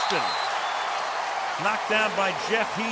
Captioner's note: whistle